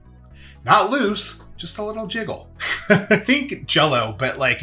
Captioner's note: laughs